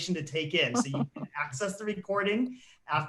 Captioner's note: laughs